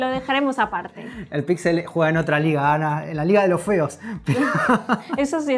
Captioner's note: laughs